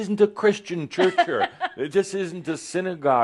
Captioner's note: she chuckles